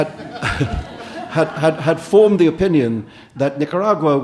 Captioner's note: audience laughing